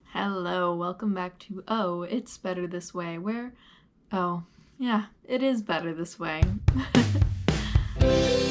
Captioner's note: chuckles